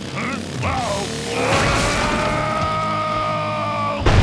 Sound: screaming

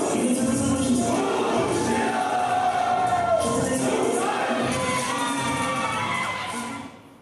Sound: heavy beat music continues; audience cheering continues

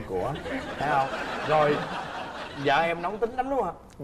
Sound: laughing

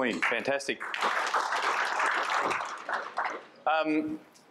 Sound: applause

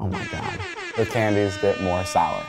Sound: horn Blows

